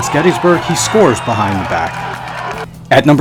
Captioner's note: crowd cheering